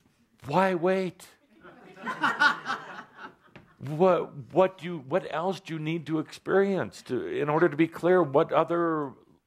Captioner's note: laughter